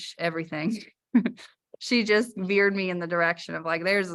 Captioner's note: laughter